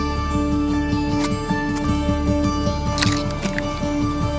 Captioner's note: shovelling